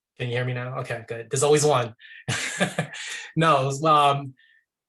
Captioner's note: laughing